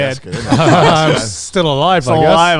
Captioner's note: chuckles